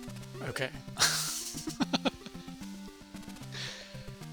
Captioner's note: laughs